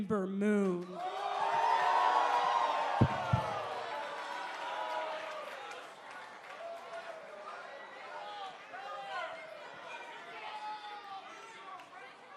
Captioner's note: cheers and applause